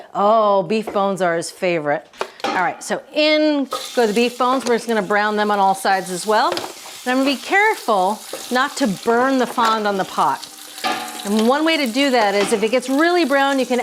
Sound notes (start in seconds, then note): 8.0 meat sizzling